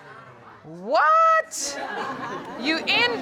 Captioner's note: audience laughs